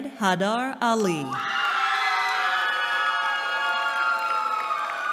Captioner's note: cheering